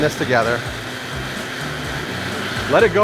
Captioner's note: sound of blender